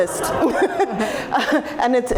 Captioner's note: laughter